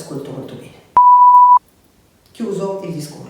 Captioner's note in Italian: beep